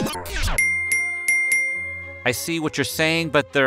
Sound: ringing

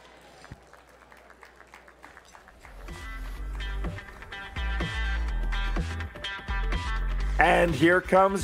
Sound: applause

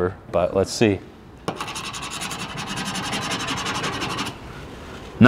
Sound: metal screeching

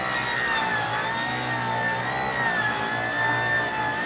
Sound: saw buzzing

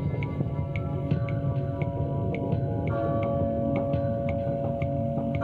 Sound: bells clanging

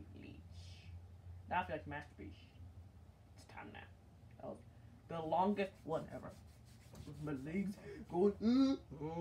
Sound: moans

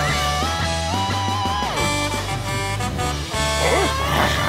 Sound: horn honking

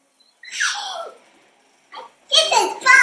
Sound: laugh

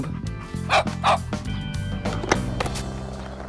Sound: Charlie barks

